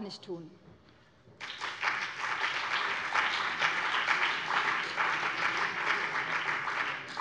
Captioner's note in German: Beifall BÜNDNIS 90/DIE GRÜNEN und CDU